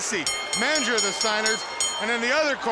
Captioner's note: bell dinging